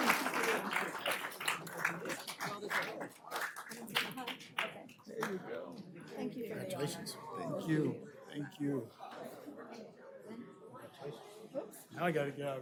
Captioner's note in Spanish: aplausos